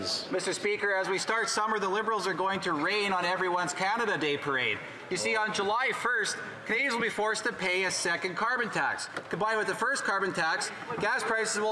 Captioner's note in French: voix de l'interprète